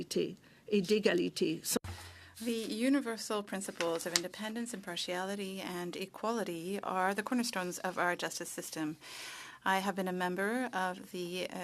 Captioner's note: speaking French